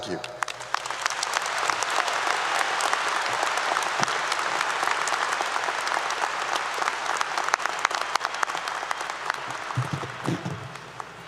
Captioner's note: applause 👏 👏